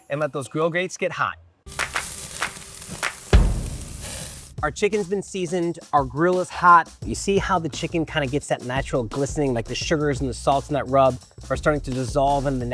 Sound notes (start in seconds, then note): 1.7 hands clapping